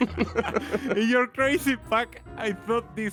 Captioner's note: laugh